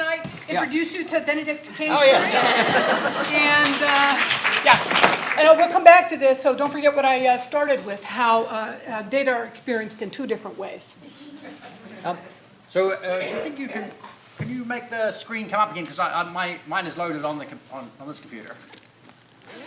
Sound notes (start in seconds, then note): 1.7 audience laughing; 11.1 audience laughing